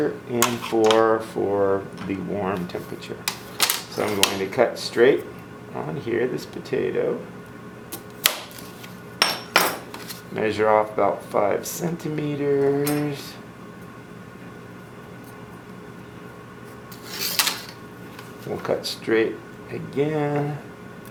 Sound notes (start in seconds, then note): 9.2 knife thunking; 17.0 ruler clattering